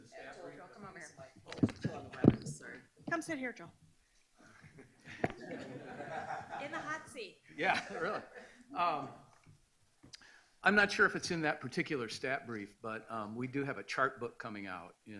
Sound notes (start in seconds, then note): 4.5 laughs